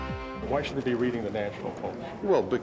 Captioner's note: bang